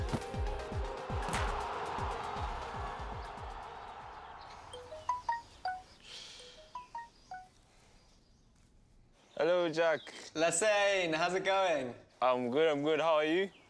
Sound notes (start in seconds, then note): 4.7 phone chiming